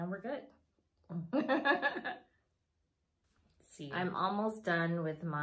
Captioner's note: laughs